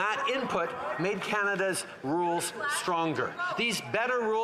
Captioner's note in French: voix de l'interprète